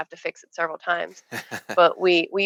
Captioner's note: laughing